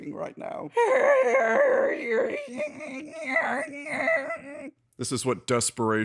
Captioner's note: makes exasperated noises